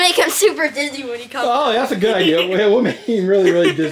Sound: laughs

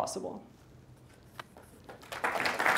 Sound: applause

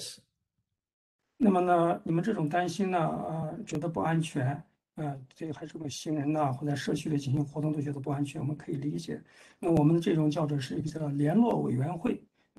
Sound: speaks in Mandarin

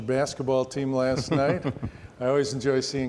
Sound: chuckles

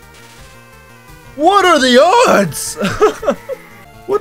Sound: laughs

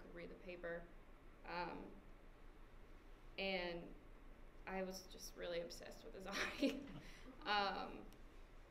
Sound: laughs

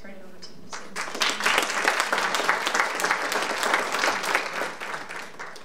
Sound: audience applauding

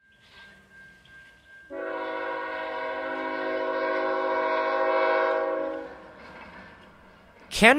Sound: train whistle

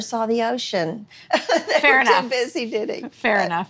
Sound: laughing

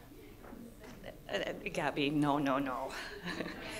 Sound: laughter

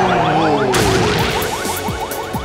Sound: crashing

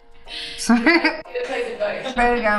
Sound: laughing

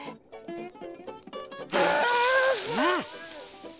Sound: groaning

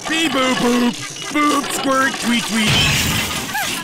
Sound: crash

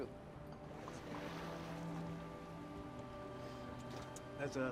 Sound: waves splashing

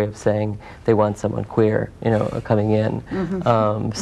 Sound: laughs

